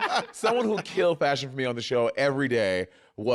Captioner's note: laughter